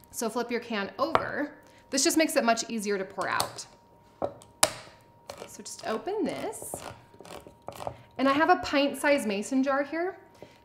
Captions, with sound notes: So flip your can over; this just makes it much easier to pour out. (can opener crackles) So just open this. And I have a pint size Mason jar here.